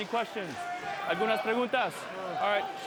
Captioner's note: referee speaks in Spanish